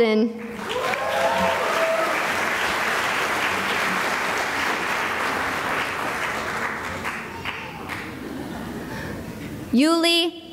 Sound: cheering and applause

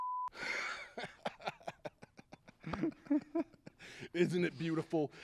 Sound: laughing

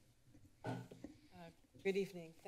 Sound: mic sound

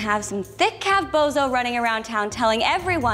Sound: none

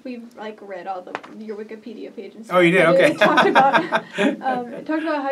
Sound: laugh

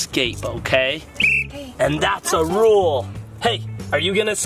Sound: whistles

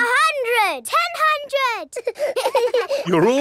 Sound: children laughing

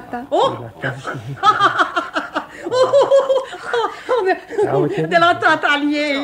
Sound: the mother-in-law laughs mockingly

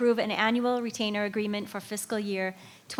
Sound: none

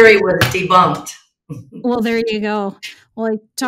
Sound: chuckles

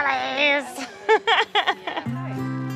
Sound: laughs; light upbeat country music

